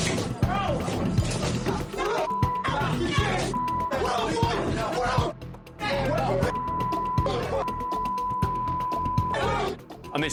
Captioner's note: crashing noises